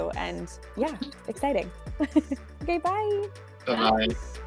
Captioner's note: laughs